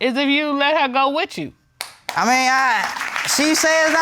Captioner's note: audience clapping